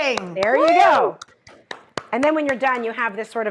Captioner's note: Rachael clapping